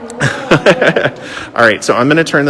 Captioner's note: laughs